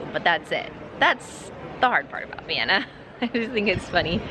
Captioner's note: laughing